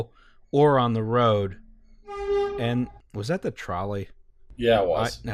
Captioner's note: trolley honk